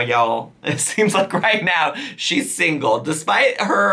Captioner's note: chuckling